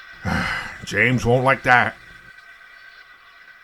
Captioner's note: sighs